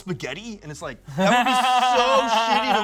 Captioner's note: laughs